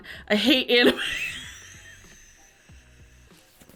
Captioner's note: laughs